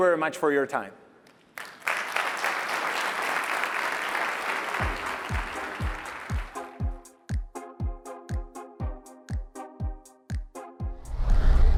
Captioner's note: applause